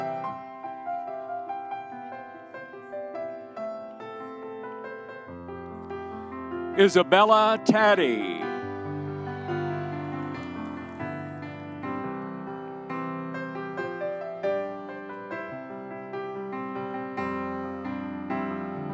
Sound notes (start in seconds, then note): 9.2 audience cheering; 11.1 soft music continues